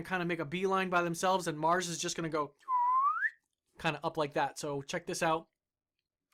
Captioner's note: whistles